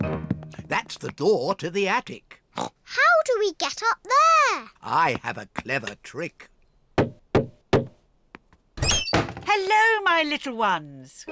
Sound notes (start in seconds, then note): 7.0 knocks